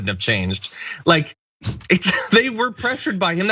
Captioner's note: laugh